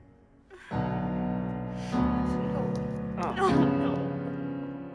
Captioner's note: bride crying